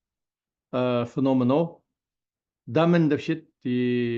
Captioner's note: tibetan